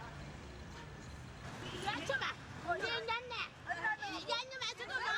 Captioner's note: people talking in background